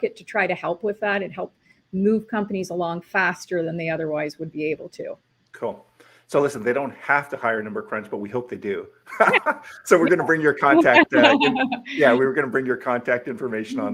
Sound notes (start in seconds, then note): 9.1 both laughing